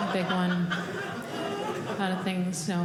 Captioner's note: audience laughing